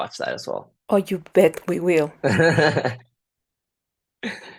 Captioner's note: laughter